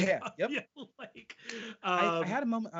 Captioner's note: laughing